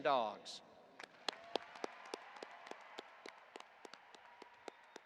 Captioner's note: audience applauding